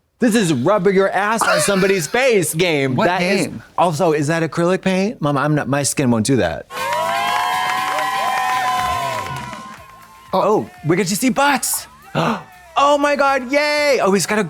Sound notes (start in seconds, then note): 6.7 cheering